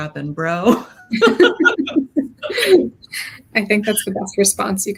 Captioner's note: both laughs